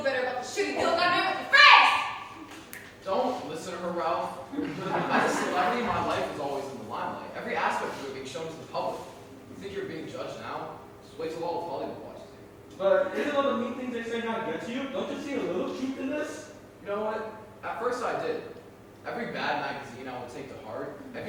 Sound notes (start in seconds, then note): 2.5 snaps